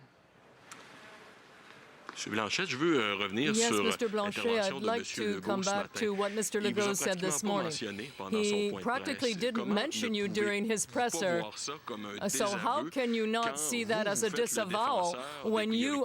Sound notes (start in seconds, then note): 4.0 speaking French